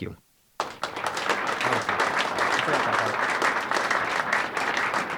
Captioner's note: audience applauding